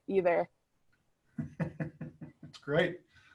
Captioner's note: chuckling